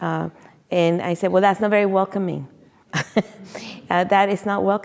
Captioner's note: chuckles